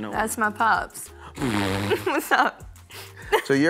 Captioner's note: laughs